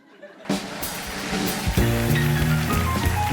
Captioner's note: cheers and applause